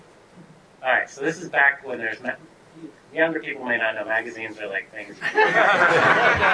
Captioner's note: audience laughter